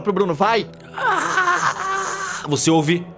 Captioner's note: Sukkal’s groan